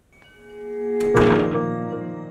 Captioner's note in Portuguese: batida de porta